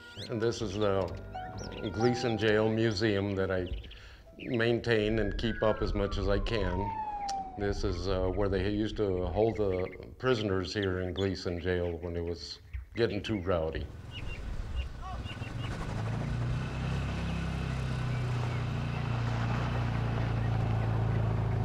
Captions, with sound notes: And this is the Gleeson Jail Museum that I maintain and keep up as much as I can. This is where they used to hold the prisoners here in Gleeson jail when it was getting too rowdy. (birds chirping) (engine running)